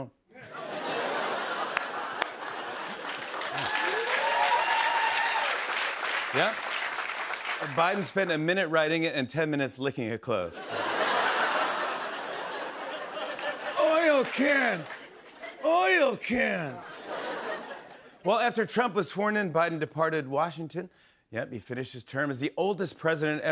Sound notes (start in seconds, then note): 0.3 laughter; 3.2 cheers and applause; 10.6 laughter